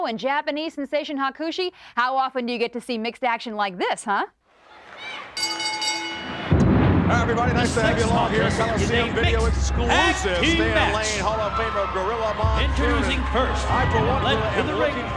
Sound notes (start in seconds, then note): 4.6 audience chattering; 5.3 bell rings; 6.7 ominous music